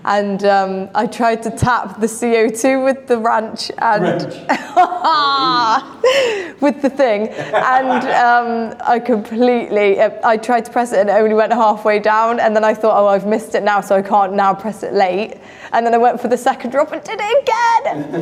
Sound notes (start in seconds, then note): 4.3 laughing in despair; 7.1 laughing